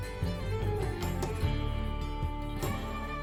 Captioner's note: none